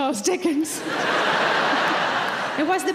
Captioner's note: audience laughing; chuckles